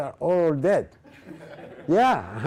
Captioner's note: laughing